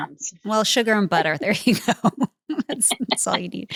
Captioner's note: laughs